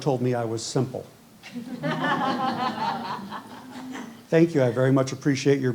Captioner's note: laughter